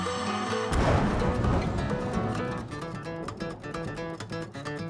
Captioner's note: thunder crashes; upbeat guitar music